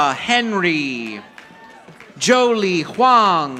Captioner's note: audience applauding